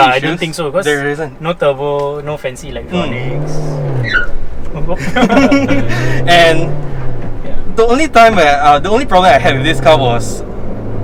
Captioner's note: tires screeching